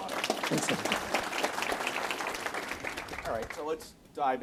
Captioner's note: audience applauds